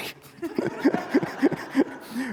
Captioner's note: audience laughing